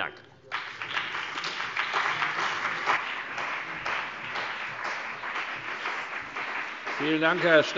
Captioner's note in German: Beifall CDU, BÜNDNIS 90/DIE GRÜNEN, vereinzelt SPD und DIE LINKE